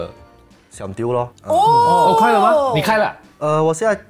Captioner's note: Ohh